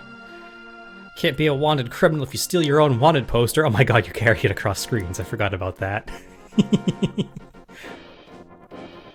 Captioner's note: giggles